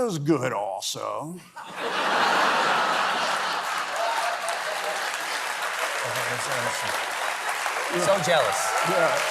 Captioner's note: laughter